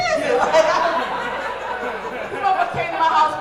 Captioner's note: audience laughing